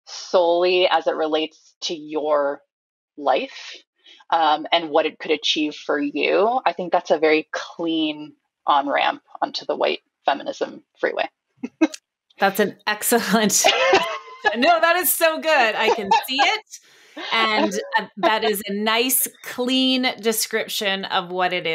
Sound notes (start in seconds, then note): 13.6 laughs